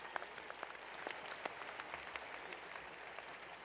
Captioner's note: applause